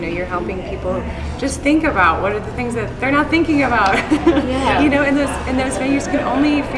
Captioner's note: laughs